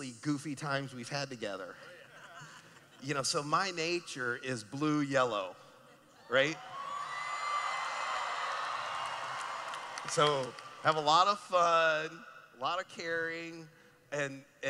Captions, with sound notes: goofy times we've had together. --Oh yeah. [Laughing] --You know, so my nature is blue/yellow. [Cheering] So, have a lot of fun, a lot of caring, and, you